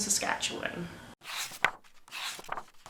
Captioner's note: pages turning